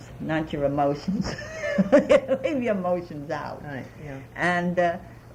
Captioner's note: laughs